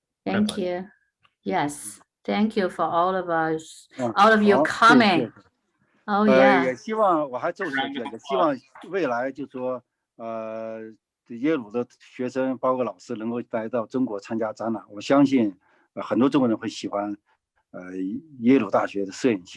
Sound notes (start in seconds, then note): 7.7 speaking in foreign language